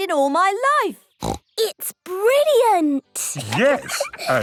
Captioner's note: laughs